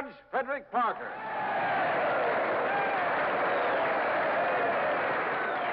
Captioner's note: audience cheers and applauds